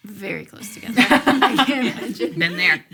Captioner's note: laughing